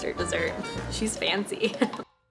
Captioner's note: laughs